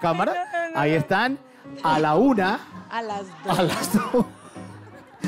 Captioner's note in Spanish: Risas